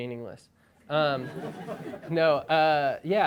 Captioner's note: crowd laughing